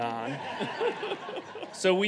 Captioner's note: audience laughing